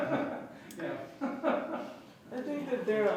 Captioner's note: laughs